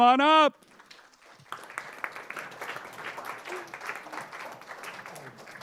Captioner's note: applause